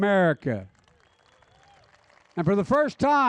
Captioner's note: applause